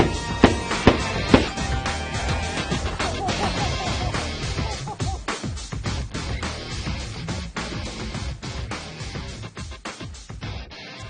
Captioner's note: shotguns blast